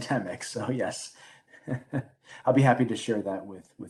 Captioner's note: chuckles